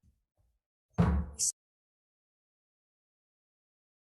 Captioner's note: gavel bangs